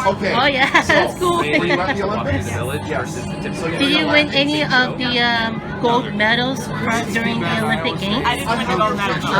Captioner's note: laughs